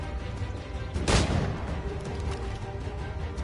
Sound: gunshot

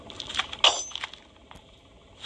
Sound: bear trap clunks

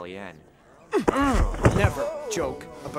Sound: thumping; Sebastian grunting

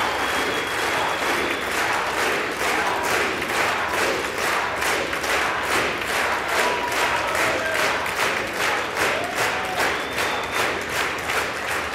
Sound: applause

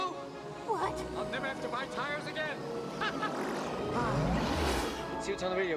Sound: laughing

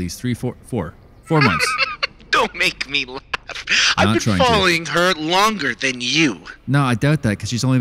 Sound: laughs

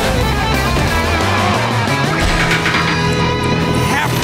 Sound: metal machine creaking down

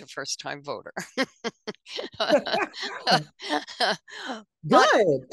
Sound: laughter

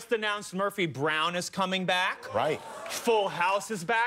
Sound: applause

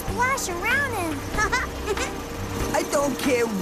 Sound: chuckles

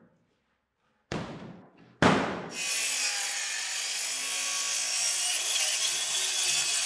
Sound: saw brattling; plywood thudding

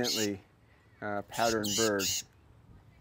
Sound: finch chirping

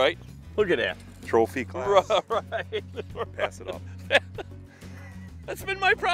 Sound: laughing

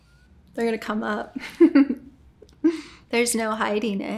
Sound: laughs

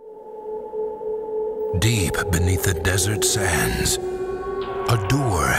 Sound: voiceover

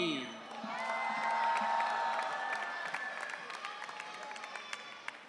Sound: audience cheering

